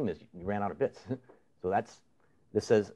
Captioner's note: chuckles